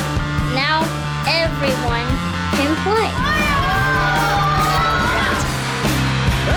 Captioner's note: children cheer